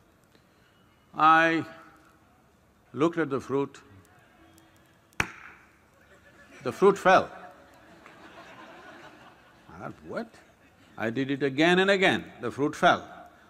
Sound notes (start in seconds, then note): 3.4 gestures – Claps; 7.6 laughter